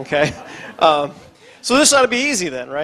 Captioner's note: audience laughs